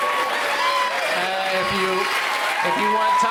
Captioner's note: cheering continues